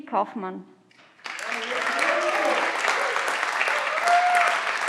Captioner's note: everyone claps